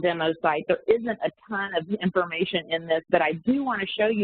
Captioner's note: audio warps